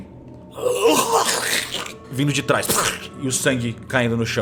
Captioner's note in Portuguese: grunhido